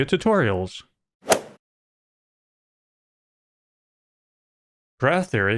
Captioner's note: golf ball hit sound